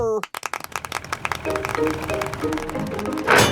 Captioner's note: clapping